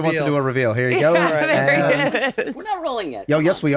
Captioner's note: laughing